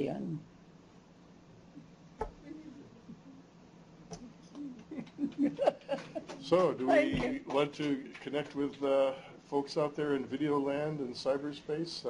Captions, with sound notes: [CHUCKLES] So do we want to connect with the folks out there in video land and in cyberspace?